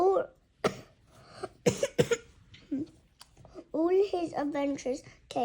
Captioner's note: cough